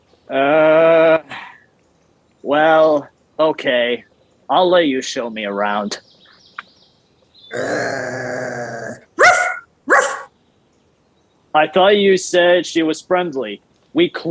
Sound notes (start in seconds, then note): 7.5 Lilith growling; 9.8 Lilith barking